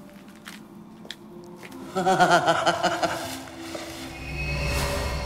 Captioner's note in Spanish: Risa malvada